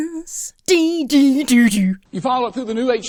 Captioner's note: imitates musical score